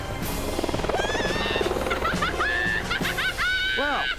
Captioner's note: evil Laughing